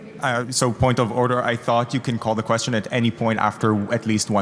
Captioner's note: speaking french